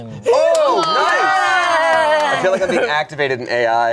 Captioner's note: all cheering